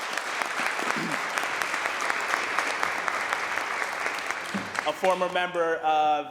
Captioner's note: applause